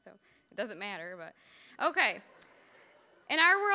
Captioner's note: audience laughing